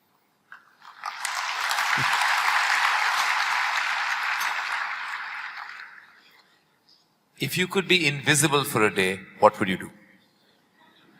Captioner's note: applause; laughter